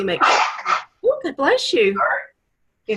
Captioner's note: sneezes